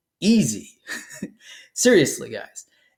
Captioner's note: laughs